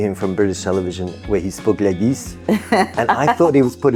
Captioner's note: thick French accent